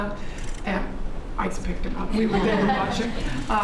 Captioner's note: laughter